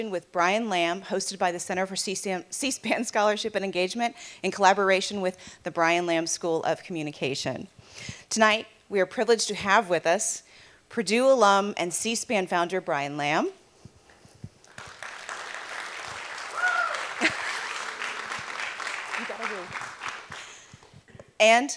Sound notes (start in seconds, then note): 19.3 applause; 19.3 cheering